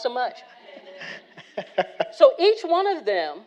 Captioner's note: all laughing